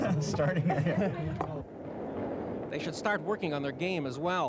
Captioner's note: laughter